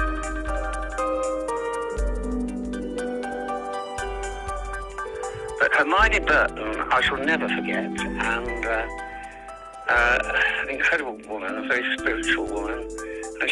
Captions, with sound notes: [bright music playing] [Voiceover] But Hermione Burton, I shall never forget. And an incredible woman, a very spiritual woman,